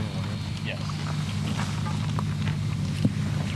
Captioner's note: chatter